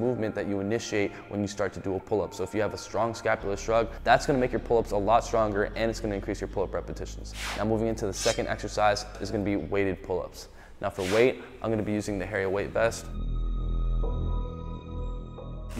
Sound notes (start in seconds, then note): 7.3 air whooshing; 8.1 blades clinking; 10.7 air whooshing